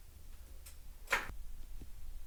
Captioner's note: click